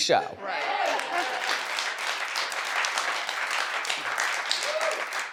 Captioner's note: audience applauds